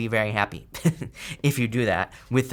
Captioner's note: laughs